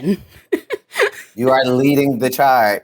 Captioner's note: laughs